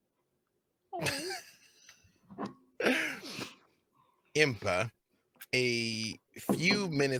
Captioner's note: laughing